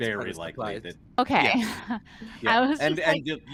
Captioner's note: chuckles